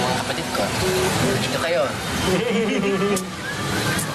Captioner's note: axel, kiko giggle